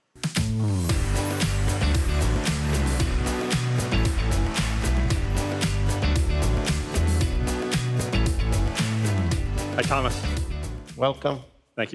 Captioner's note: applause